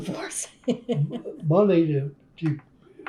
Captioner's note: laughs